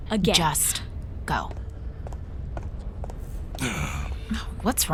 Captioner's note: footsteps away; Chartrulean groaning